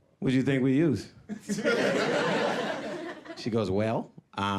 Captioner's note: audience laughing